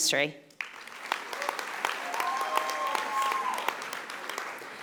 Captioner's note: audience applauding